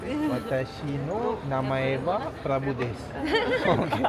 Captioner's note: laugh